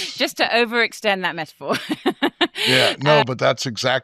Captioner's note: chuckling